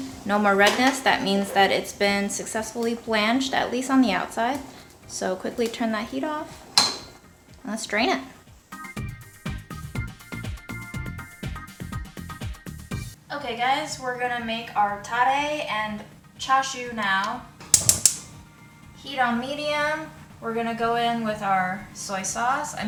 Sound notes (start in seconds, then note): 8.6 upbeat music; 17.6 stove clicking